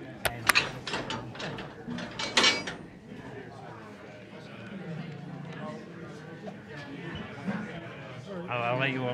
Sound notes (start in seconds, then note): 0.2 metallic clanking; 4.0 crowd murmuring